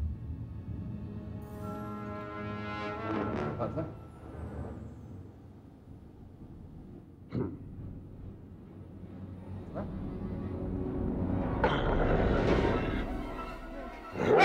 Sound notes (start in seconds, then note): 7.4 Donald chuckles; 11.7 Donald growls